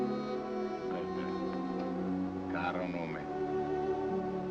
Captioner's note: speaks Italian